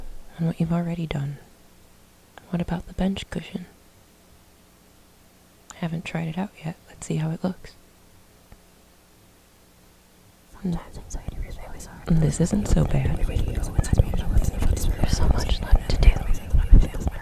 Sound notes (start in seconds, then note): 13.3 whispers